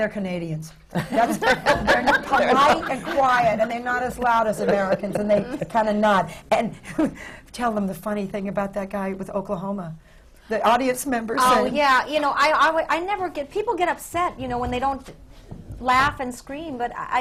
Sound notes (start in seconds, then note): 0.9 laughter